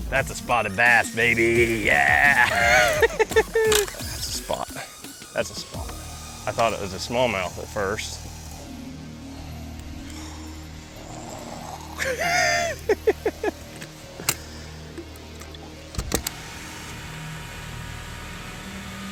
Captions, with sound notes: That's a spotted bass baby, yeah! (laughs) That's a spot, that's a spot. I thought it was a small mouth at first. (laughs)